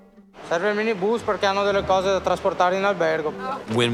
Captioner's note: speaking Italian